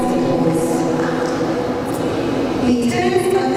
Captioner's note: attendees clap in agreement